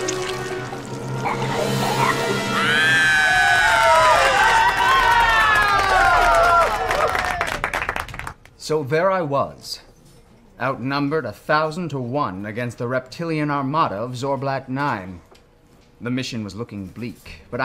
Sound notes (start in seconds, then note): 4.1 kids cheering